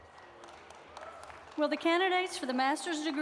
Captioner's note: applause